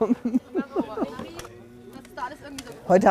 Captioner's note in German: Stimmengewirr